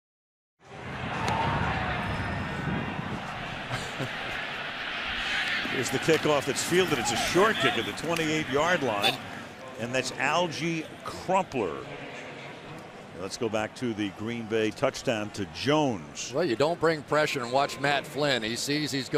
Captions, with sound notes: [cheering] [chuckles] Here's the kickoff that's fielded. It's a short kick at the 28-yard line. And that's Alge Crumpler. Let's go back to the Green Bay touchdown to Jones. Well, you don't bring pressure and watch Matt Flynn.